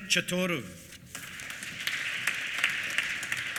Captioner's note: applause